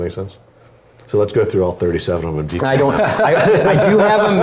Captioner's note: laugh